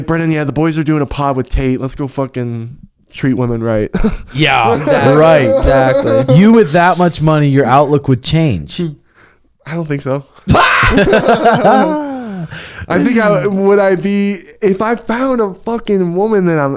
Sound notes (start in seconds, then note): 5.9 laughing; 10.5 all laughing